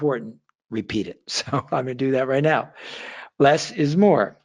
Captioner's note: laughs